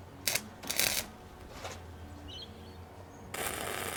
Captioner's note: welder buzzing